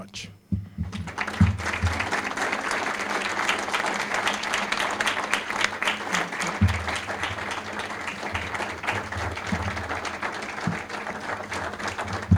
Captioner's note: applause